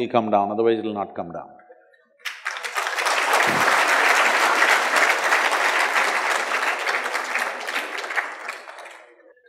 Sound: applause

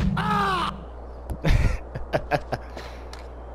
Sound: laughing

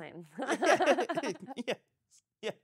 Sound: laughing

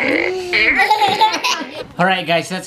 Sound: laughs

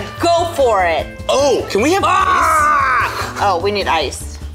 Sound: war cries

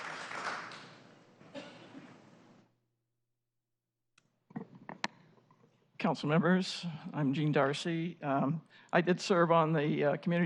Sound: applause

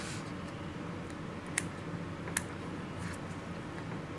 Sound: clipping sounds

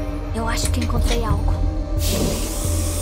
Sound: mechanical button sounding

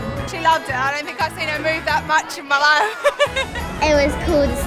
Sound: laughs

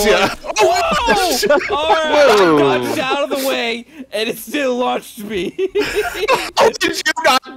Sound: group laughter

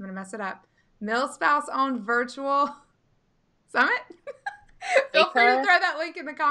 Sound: laughing

